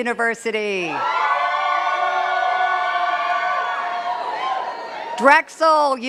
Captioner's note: cheers and claps